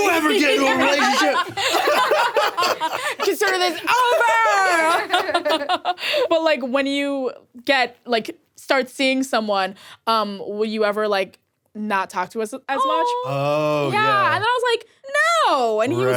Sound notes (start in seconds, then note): 1.8 people laughing; 5.5 laughs